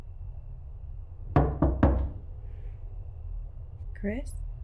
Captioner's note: door knocking